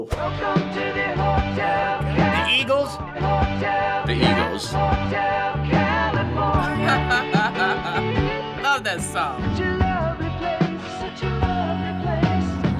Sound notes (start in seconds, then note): 6.6 laughs